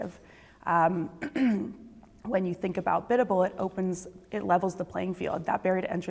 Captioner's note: cough